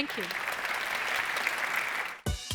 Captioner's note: applause